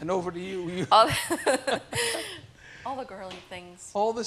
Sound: laughing

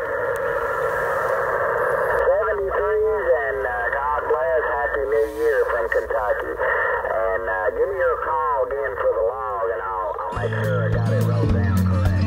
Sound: voice on radio

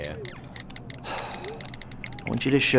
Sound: sighs

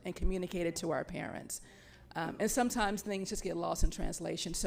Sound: none

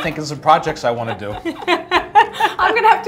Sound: laughter

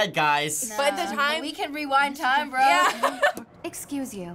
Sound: laughing

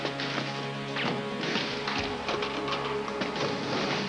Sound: gunshots

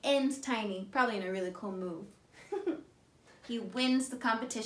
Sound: chuckles

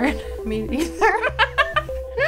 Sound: laughter

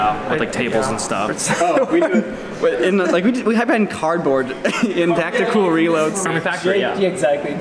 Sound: laughs

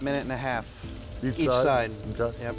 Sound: sizzling

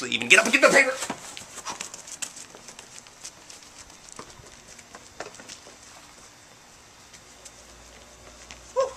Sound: paper-Getting sounds

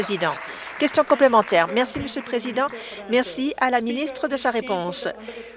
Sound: applause

